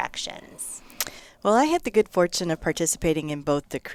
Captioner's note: pat